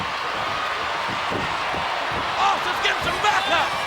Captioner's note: crowd cheering